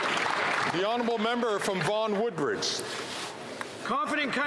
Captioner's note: some Applause